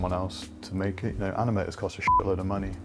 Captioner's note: beep